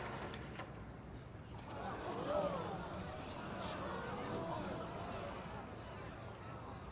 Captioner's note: audience gasps, murmurs